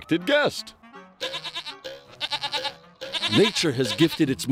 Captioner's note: bleating